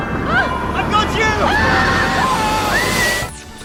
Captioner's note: laughs; screaming